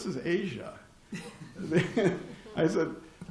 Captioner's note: laughter